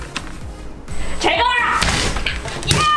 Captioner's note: the machine noise is recorded on the video